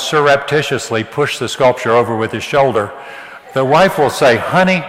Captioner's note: audience laughs